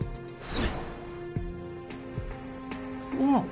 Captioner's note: casting incantation